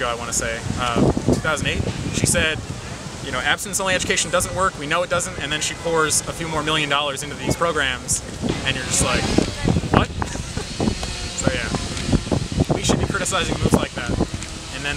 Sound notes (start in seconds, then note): 10.1 laughs